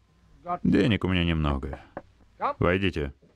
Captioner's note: door knock